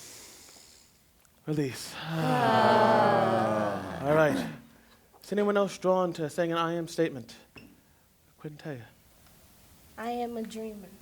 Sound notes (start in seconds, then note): 1.9 sighing exhale